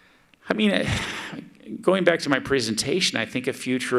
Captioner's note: sighs